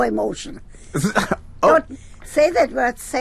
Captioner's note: laughs, stammers